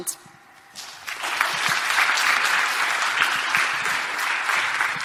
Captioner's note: crowd applauds